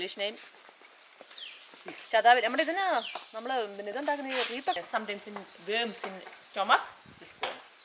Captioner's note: non-english speech